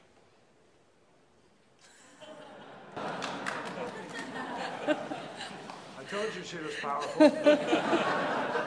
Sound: laughter

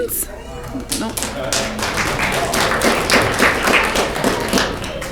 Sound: audience clapping

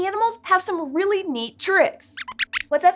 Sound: squeaks squeaks

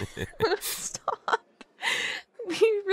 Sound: laughs; giggles

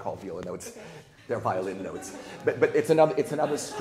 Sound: people laughing

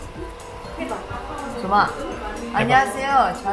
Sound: Mandarin

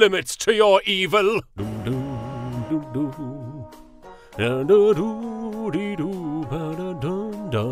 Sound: bootiful humming

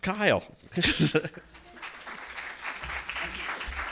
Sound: applause

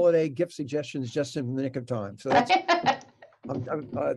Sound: laughing

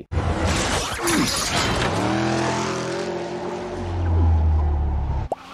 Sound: car revving

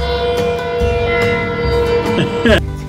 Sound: train horn blaring

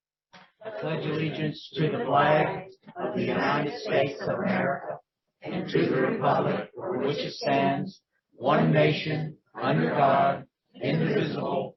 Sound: Pledge of Allegiance recited in unison

